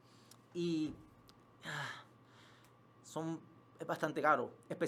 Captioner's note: sighs in spanish telenovela